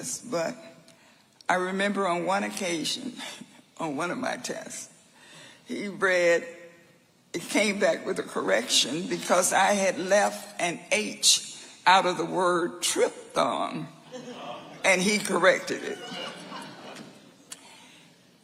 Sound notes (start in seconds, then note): 15.9 audience laughing